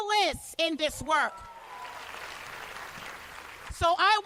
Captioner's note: cheers and applause